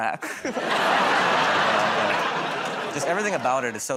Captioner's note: laughter